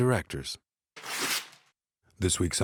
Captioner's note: ripping